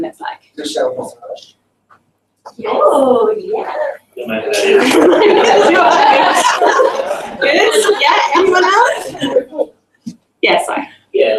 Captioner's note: chattering of acknowledgement